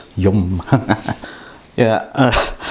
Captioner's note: laugh